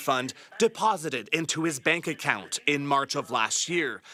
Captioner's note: speaking French